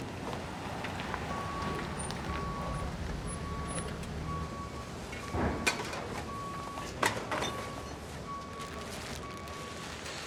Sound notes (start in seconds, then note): 1.2 truck beeping; 5.7 glass & metal clinking